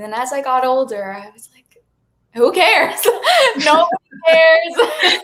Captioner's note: everyone laughs